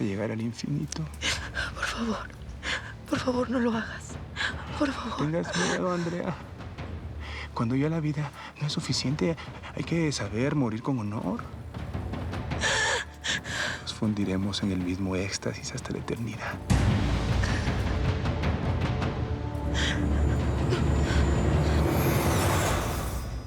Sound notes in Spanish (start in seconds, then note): 12.6 Sollozos